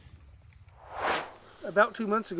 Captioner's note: air swooshes